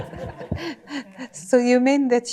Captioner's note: laughter